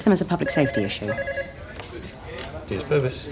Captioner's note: phone ringing